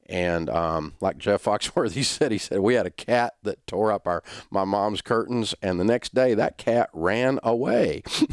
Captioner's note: laughter